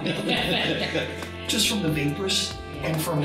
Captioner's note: crowd laughs